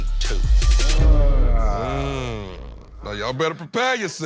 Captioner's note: all groan